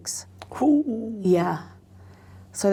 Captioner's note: gasps